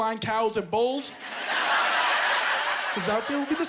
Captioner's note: laughing